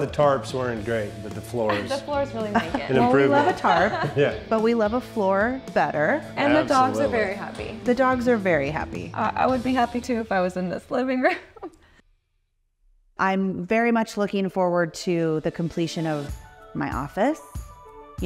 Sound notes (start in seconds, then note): 2.3 laughs; 11.0 laughs